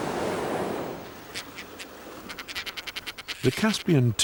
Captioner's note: birds nattering